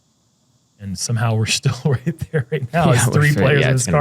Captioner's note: chuckles